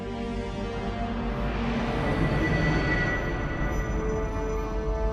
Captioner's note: atmosphere whooshing